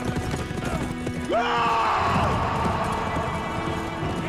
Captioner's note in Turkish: Haykırış